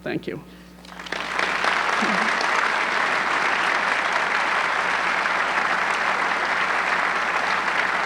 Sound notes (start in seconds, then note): 0.8 audience clapping